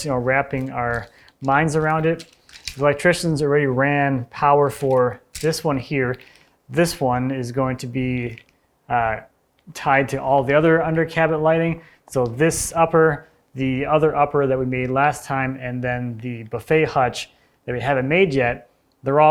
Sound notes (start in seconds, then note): none